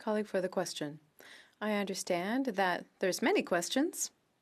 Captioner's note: speaking French